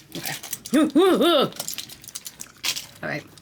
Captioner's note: shudders